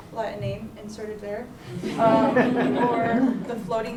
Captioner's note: laughter